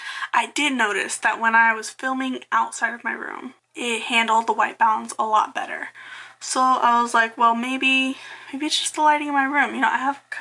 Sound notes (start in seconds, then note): none